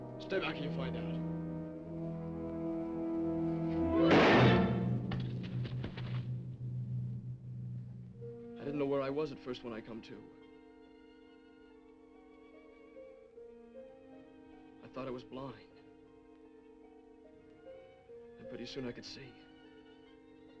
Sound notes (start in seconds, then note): 2.7 dramatic music; 4.0 gun firing; 10.9 gentle music; 20.4 gentle music